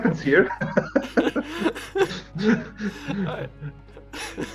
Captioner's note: смеются